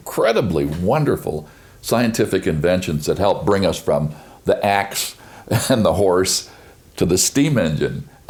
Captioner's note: chuckles